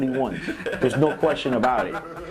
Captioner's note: laughter